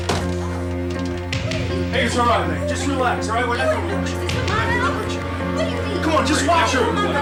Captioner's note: yelling